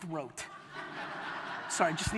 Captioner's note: audience laughter